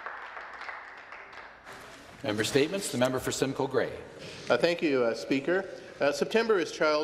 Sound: some Applause

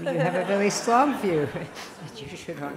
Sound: laughter

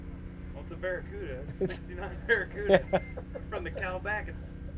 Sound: men laughing

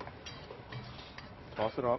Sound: metal pinging

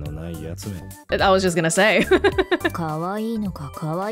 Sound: chuckles

